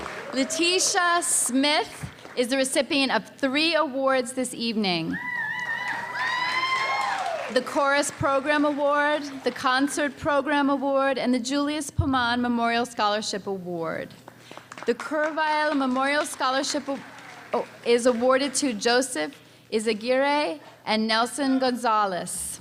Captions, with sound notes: Latisha Smith is the recipient of three awards this evening. (cheering) The Chorus Program Award, the Concert Program Award, and the Julius Pomann Memorial Scholarship Award. The Kurzweil Memorial Scholarship is awarded to Joseph Isegiray and Nelson Gonzalez.